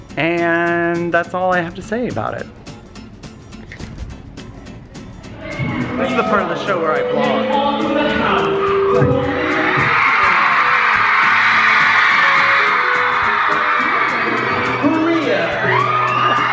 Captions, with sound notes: And that's all I have to say about it. This is the part of the show where I vlog. (crowd cheers)